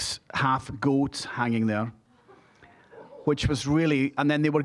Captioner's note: scattered chuckling